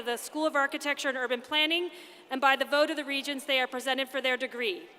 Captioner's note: none